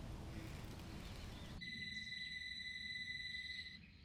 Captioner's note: distant phone rings